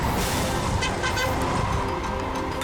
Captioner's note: horn honks